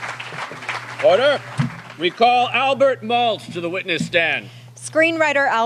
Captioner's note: applause